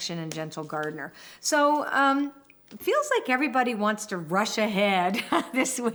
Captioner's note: laughs